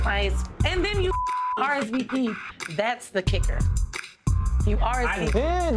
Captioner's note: beeps